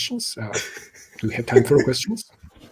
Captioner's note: laughs